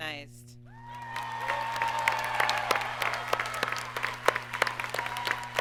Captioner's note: audience cheers and applauds